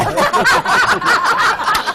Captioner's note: laughter